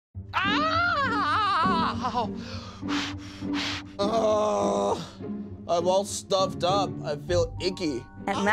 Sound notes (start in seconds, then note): 0.3 screaming; 4.0 grunting